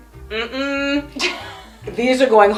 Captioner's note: chuckles